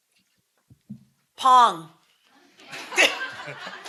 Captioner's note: laughter